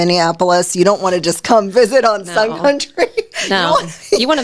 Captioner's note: laughing